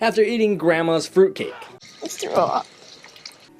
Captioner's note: gagging